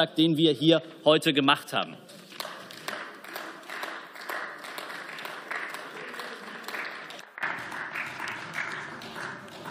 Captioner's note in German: Beifall